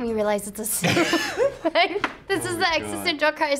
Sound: both laugh

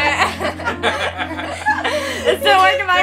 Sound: family chuckles

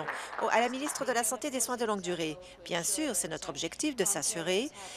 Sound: applause

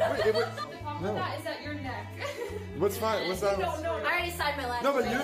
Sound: laughs

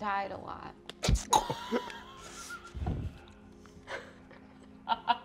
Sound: laughing

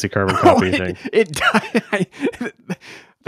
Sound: laughing

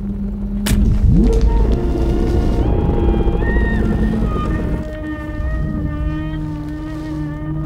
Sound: the sound rumbles and warps

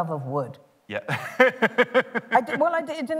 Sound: laughter

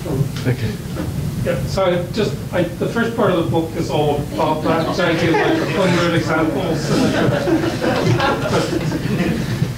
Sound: audience laughs

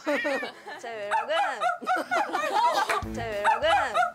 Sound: woof woof woof!

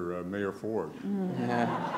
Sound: laughter

